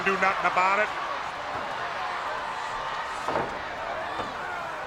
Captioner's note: crowd yelling